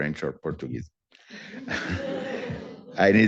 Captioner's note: laughter